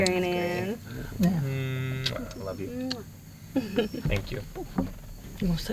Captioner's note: blowing kisses